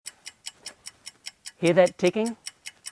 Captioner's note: clock ticking